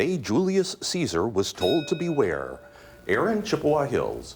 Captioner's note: bell dings